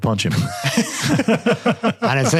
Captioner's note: all laughing